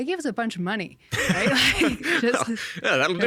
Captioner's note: laughing